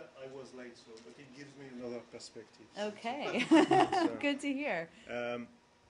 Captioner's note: laughter